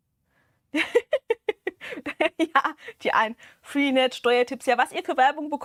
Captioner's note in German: gelächter